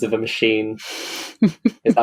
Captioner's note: laughs